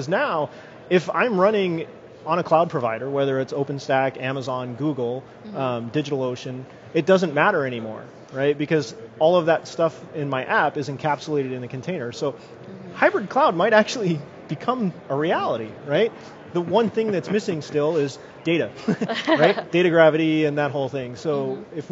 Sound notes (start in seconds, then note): 18.8 laughs